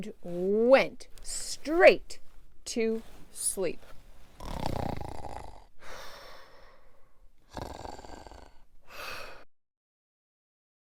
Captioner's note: snoring Zzzzzzz